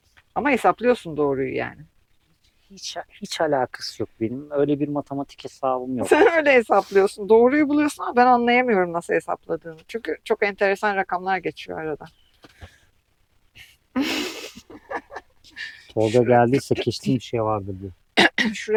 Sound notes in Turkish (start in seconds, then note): 13.9 kahkaha